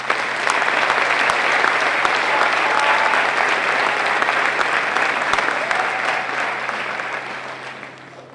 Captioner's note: applause